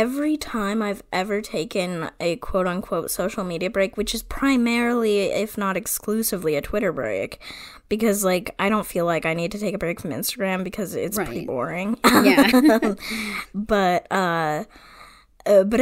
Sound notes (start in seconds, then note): 12.0 laughs